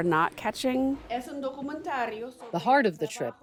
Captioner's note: speaking in foreign language